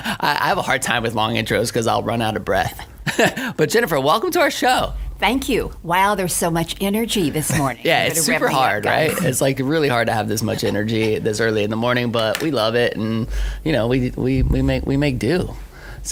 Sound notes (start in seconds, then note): 3.0 laughs